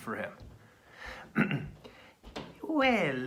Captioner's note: clears throat